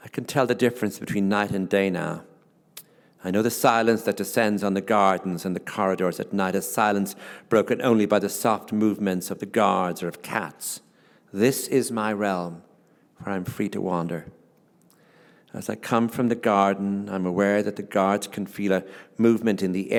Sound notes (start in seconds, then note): none